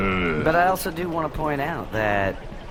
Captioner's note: long groan